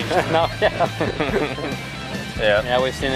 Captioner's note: laughs